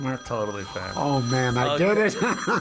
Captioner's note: phone ringing; laughs